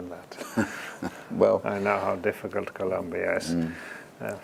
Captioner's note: laugh